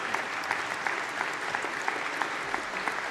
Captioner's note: applause